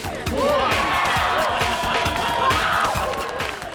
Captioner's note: applause